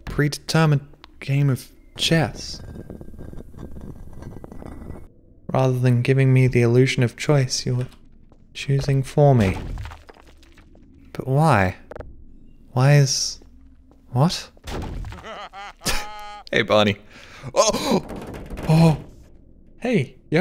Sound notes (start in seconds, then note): 15.1 Barney laughing; 15.1 chuckles; 17.1 gasp